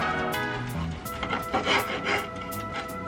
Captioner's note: knife scraping cutting board